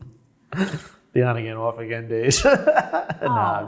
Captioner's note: chuckles